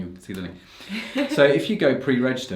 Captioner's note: laughs